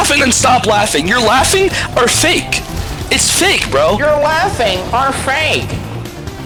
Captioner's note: mocking